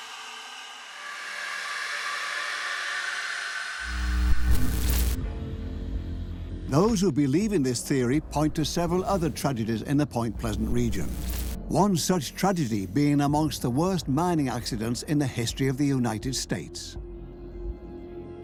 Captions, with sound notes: (electricity fizzles) Those who believe in this theory point to other tragedies in Point Pleasant. One such tragedy being one of the worst mining accidents in the history of the United States.